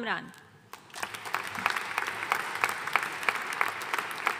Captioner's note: audience applauding